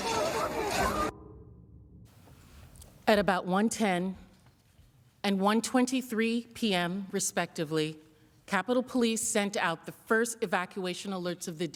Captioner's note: yelling